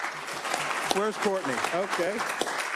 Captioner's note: applause